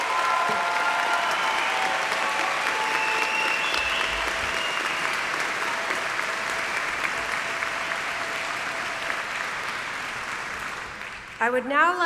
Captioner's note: applause